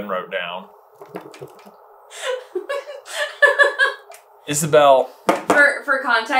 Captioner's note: laughter